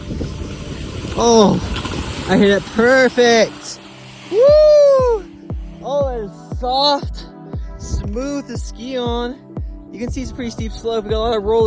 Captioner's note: happy skiing sounds